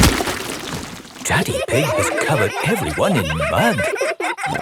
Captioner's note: all laughing